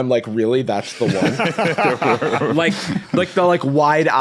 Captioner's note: group laughing